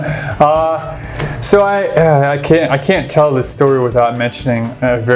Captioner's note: laughs